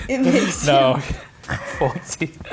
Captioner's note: laughter